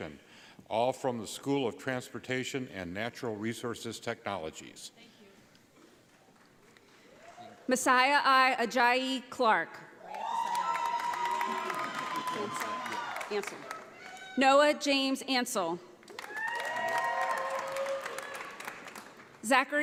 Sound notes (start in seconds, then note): 10.0 audience applauding; 16.0 audience applauding